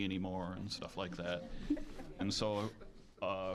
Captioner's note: audience chuckling